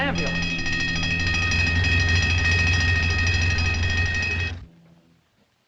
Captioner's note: bell Ringing